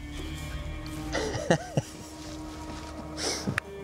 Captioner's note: laughs